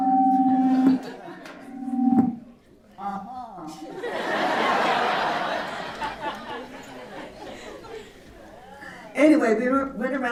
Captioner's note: laughter